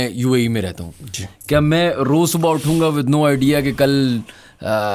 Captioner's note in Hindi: नाक से की जाने वाली आवाज़